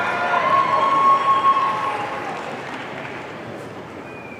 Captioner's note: audience cheering